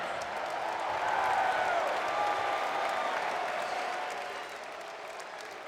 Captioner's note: crowd cheers and applauds